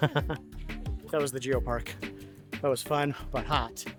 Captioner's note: laughs